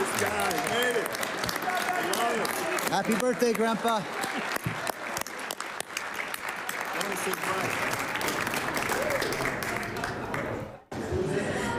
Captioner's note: applause